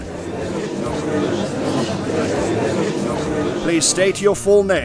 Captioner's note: gallery chattering